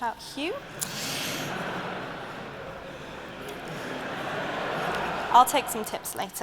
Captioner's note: laughter